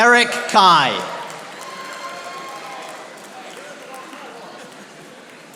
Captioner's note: audience applauding